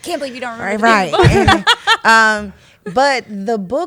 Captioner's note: laughs